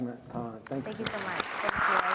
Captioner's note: applause